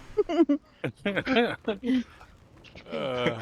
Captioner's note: laughter